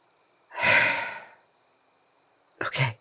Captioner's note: frustrated sigh